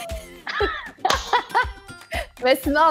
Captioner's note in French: rires